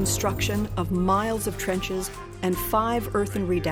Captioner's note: hammering, shoveling, scraping